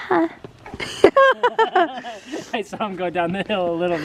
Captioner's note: laugh